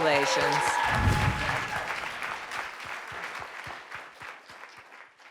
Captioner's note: audience cheering